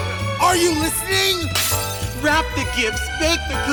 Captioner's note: glass shatters